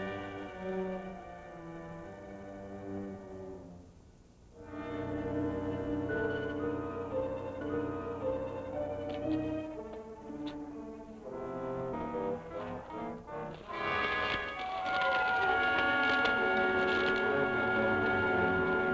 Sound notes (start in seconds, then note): 14.5 rocks clattering